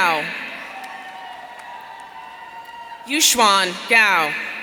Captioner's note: audience cheering